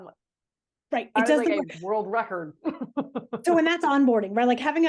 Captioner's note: laughing